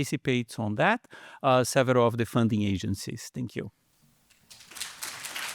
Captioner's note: applause